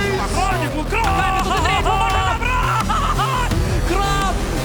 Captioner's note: people cheering